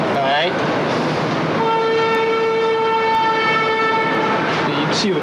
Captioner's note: cars beep in distance